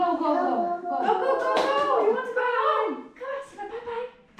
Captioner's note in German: murmelt